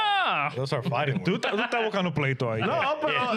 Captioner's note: speaking In Foreign Language